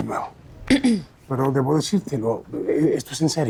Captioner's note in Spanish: aclara garganta